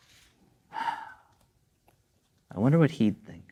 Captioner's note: sighs